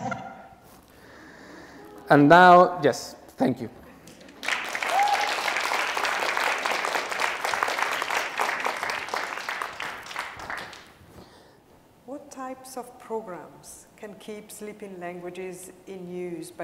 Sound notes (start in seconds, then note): 4.0 applause